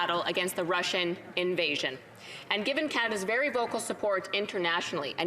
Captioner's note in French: voix de l'interprète